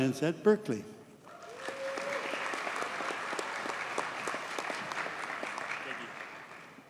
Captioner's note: audience cheers and applauds